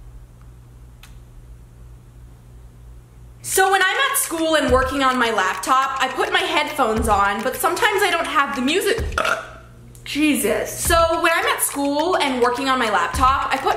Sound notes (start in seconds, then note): 9.1 burps